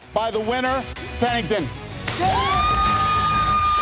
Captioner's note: cheers and applause